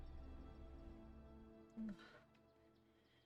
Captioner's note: tiny sigh noise